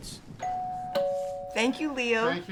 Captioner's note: doorbell ringing